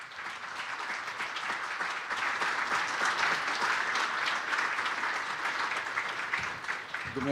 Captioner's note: applause